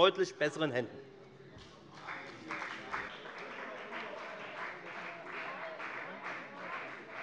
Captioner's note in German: Beifall bei der FDP - Zurufe von der CDU